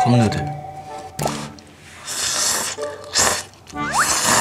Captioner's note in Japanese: カップヌードル ツルツル